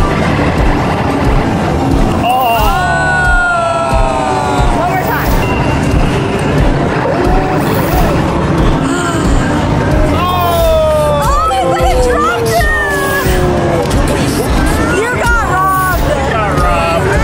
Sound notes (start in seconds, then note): 5.8 arcade sounds; 8.8 gasps